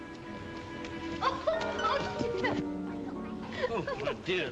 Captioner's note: dramatic whimsical music; softly gasps; laughs softly